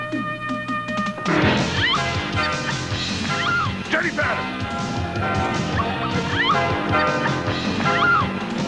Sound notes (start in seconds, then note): 1.7 Jennifer screams